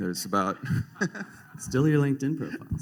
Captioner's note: laughter